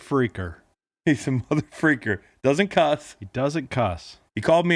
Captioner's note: laughs